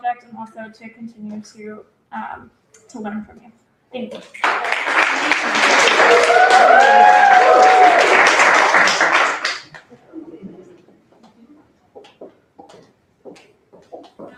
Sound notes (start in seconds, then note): 4.3 applause; 4.4 cheering